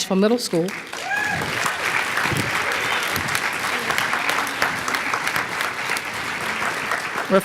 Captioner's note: applause